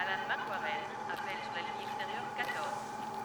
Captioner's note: announcer speaking on pa